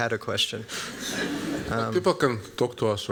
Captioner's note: laughter